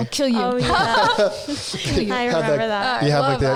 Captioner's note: all chuckling